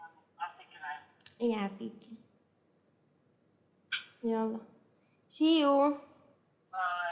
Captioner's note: non-english speech